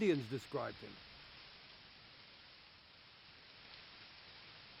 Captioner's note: leaves rustling